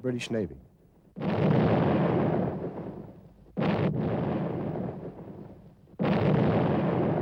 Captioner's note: explosions